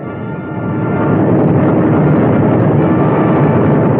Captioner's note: roaring